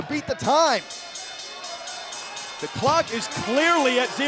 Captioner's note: bell ringing